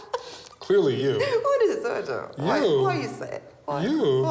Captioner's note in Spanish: risas